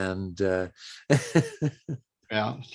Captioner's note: chuckles